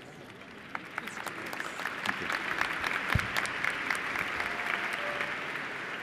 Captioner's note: applause